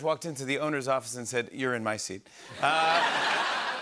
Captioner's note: laughter